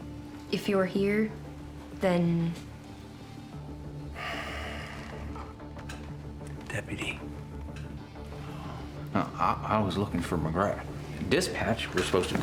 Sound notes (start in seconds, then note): 4.1 sighs; 7.9 tense music